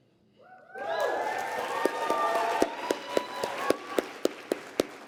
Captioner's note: applause